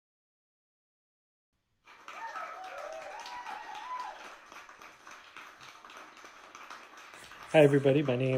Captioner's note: applause and cheers